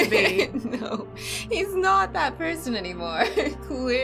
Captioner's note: laughing